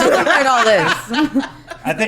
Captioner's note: laughing